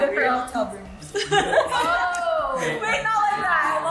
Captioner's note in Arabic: الكل يضحك